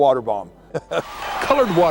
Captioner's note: chuckles